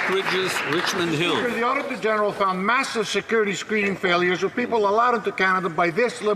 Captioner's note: some Applause